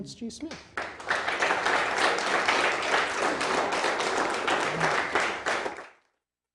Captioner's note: applause